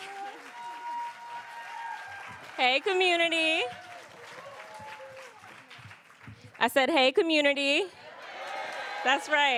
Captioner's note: applause